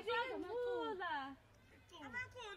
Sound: people talking in native language

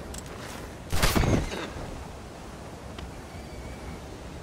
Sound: repeated gunfire

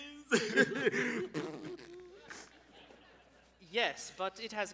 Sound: Samuel sobs

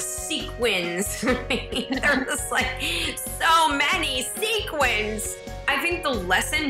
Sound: laughing

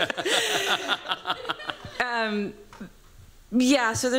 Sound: laughter

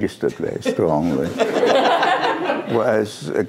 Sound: laughter

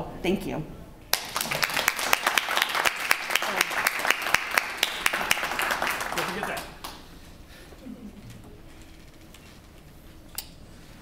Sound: applause

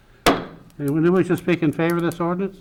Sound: gavel pounding

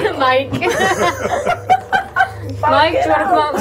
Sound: laughing

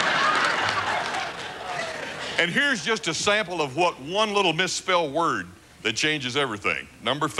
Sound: laughter

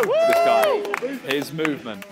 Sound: contestants clapping and cheering

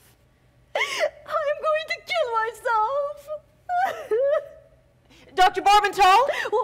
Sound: Natasha loudly sobs

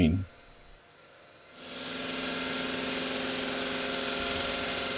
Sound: saw grinding

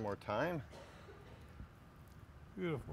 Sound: distant coughing

